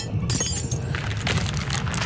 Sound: dishes Shatter

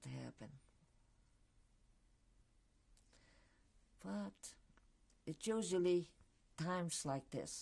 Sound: pauses for 3 seconds

